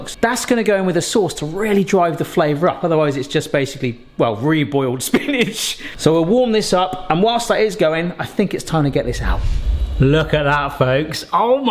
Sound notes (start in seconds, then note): 5.6 laughs